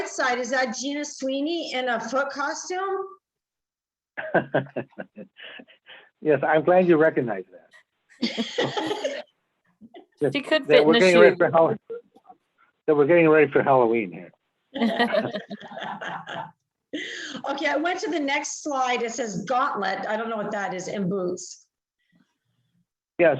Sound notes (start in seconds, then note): 4.2 chuckles; 8.2 multiple speakers laugh; 14.7 multiple speakers laugh